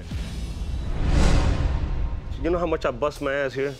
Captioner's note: air swooshes